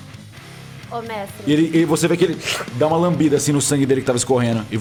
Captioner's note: slurp